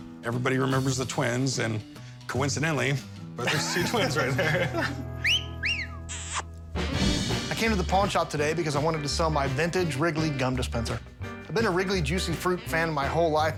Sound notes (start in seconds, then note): 5.5 catcall; 5.6 kissing sound